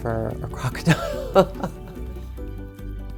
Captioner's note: laughs